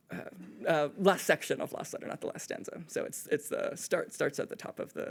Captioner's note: none